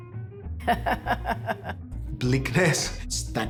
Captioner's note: laughter